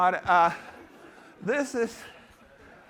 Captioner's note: laughter